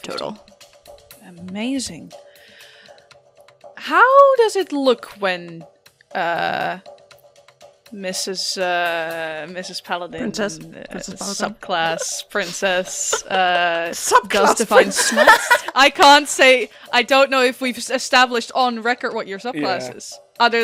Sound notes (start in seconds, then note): 10.9 giggles; 13.9 laughs